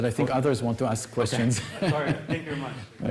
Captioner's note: laughter